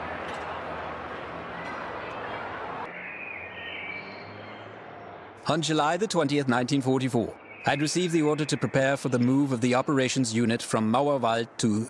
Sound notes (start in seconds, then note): 2.1 birds chirping